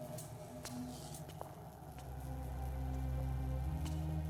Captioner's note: lights buzzing; suspenseful music; footsteps tapping